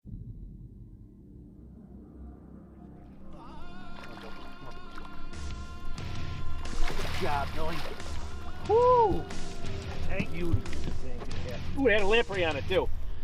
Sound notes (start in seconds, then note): 5.2 energetic rock music; 6.9 water splashing; 8.6 exclaims